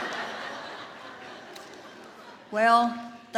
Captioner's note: audience laughs